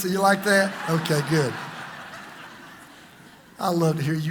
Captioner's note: congregation laughs